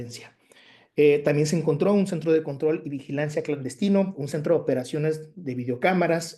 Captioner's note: continues speaking Spanish